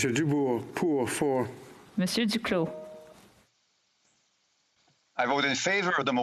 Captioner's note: speaking French